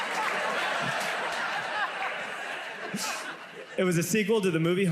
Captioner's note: audience laughs